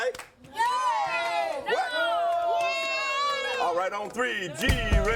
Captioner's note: kids cheering